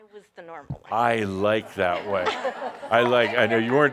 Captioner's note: some chuckles